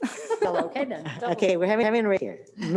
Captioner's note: they laugh